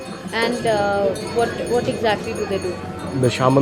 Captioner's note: bells jingling